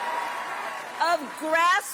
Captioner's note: applause; cheering